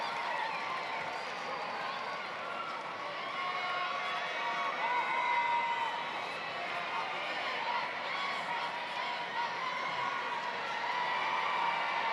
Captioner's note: cheering and applause